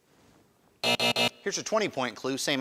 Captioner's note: alarm buzzes